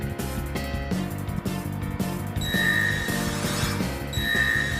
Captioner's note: none